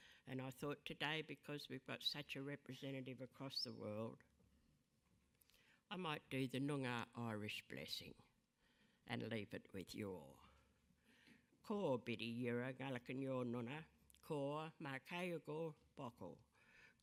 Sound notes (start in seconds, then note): 11.5 speaking in a foreign language